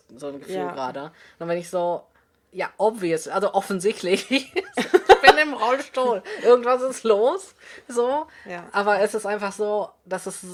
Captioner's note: both laugh